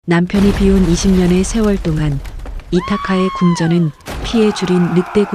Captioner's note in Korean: 비명